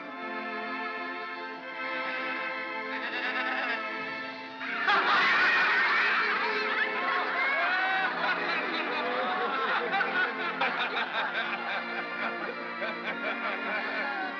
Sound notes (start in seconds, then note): 1.8 sheep baa; 4.6 all laugh; 4.6 soft music